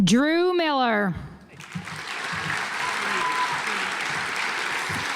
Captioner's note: audience applauds